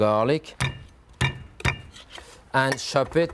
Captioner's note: thumping board